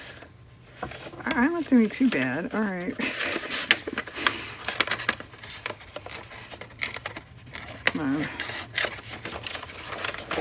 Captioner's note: laughs